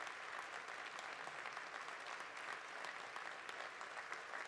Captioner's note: applause continues